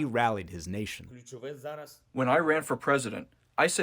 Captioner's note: through translator